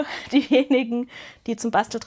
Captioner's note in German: gelächter